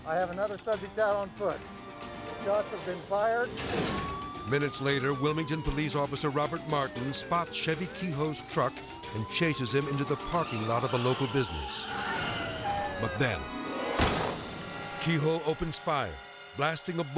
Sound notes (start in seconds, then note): 3.5 dramatic whoosh; 3.5 sirens blaring; 10.2 tires skidding; 11.2 sirens blaring; 13.4 dramatic whoosh